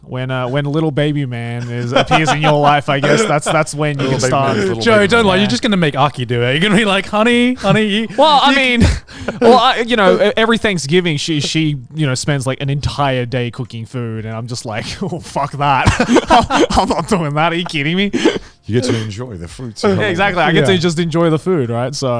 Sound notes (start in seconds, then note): 1.6 laughs; 15.8 group laughs